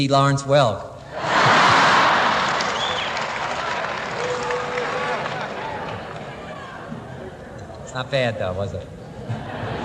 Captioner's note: laughter